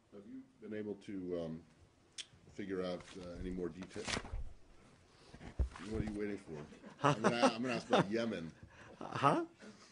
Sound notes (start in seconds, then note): 6.6 laughter